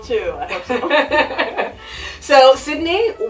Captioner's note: laughs